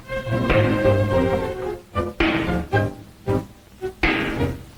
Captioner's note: hammer smashing